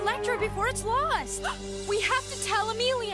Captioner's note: gasp